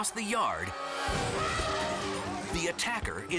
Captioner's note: attacking elephant trumpets